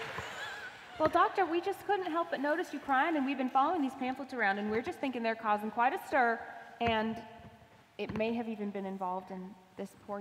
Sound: laughter

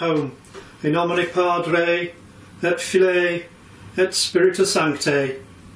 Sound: talking in foreign language

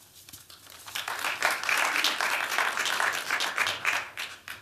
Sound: applause

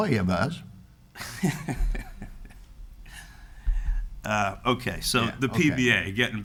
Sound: laughs

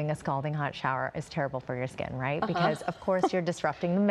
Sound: laughter

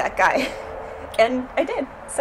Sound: laughs

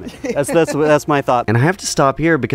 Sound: laughs

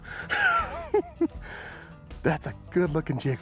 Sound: chuckles

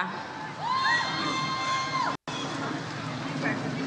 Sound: audience cheers

